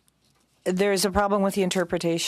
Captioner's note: speaking French